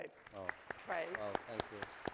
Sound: crowd applauds

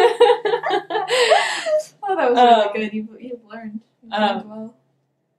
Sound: laughing

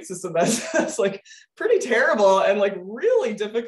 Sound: laughing

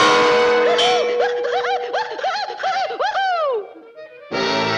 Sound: whooping

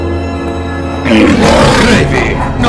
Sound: growling

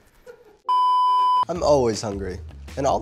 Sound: laughing in the distance; beeping

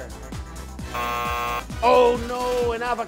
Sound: buzzer

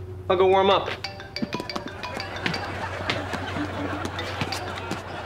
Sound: phone ringing

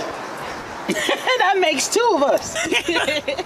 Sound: giggle

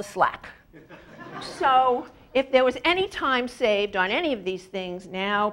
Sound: laugh

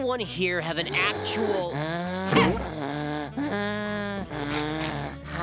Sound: loud wheezing

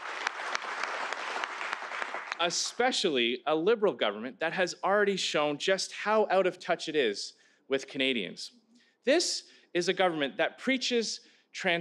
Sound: applause

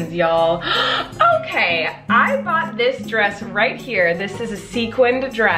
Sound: gasps

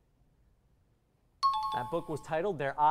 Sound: error buzzer; timer bell

